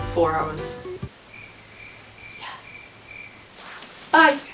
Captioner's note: crickets